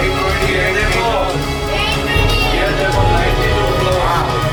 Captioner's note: indian people talking loudly